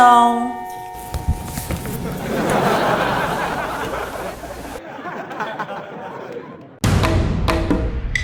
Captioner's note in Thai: หัวเราะ